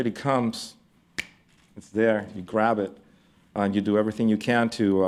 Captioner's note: snaps fingers